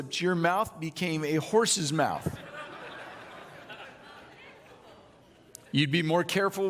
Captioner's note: audience laughing